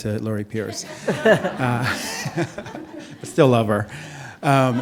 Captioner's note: audience laughing